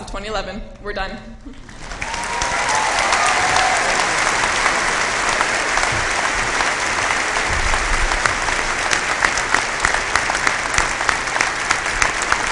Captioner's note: applause